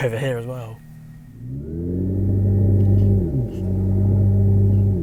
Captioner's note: car EV Rev Sounds